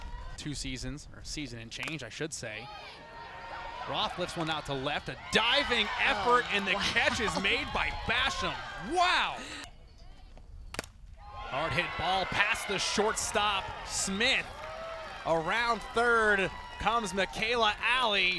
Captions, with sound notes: Two seasons. Or season and change I should say. Roth lifts one out to left. A diving effort and the catch is made by Basham. Wow! [bat hits ball] Hard hit ball past the short stop. Smith. Around third third comes Mikayla Allee